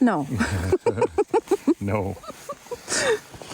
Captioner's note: laughs